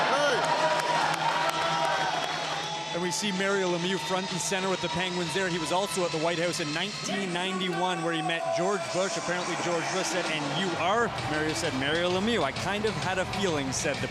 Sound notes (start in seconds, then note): 6.9 cheering and Applause